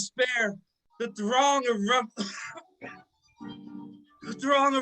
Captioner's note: coughs